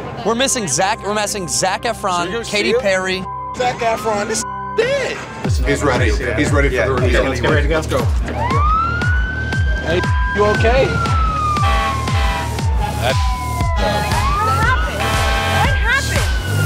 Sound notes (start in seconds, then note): 3.5 beep; 7.1 police sirens; 11.0 beep; 11.9 police sirens; 14.4 beep